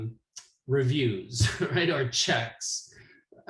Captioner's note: laughs